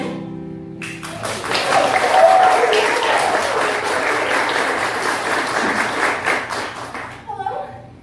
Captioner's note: applause